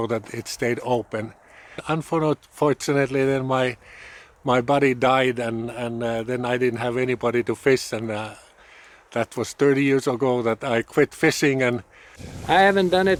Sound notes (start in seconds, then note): none